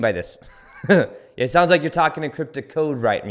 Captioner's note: chuckles